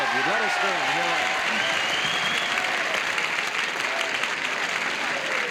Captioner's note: cheers and applause